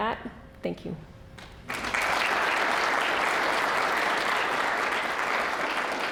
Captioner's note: applause